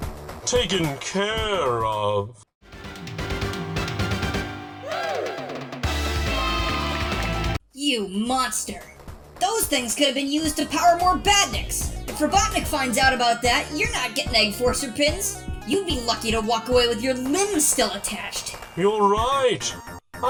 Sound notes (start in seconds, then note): 2.7 party music; 5.9 cheering